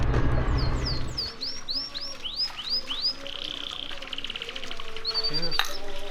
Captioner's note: bird chirping; water splattering